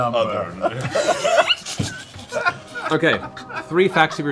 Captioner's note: laughter